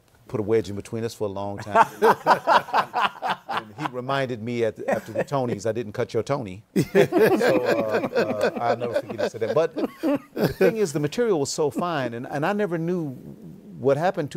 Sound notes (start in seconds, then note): 1.6 laughter; 6.7 laughter